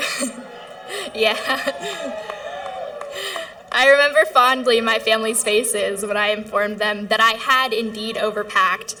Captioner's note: cheering